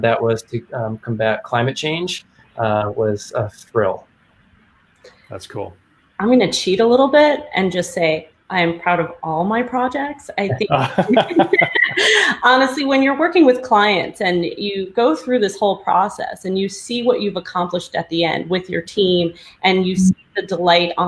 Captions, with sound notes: that was to combat climate change, was a thrill. - That's cool. - I'm gonna cheat a little bit and just say I'm proud of all my projects. I think- (laughing) honestly, when you're working with clients and you go through this whole process and you see what you've accomplished at the end with your team and you see the delight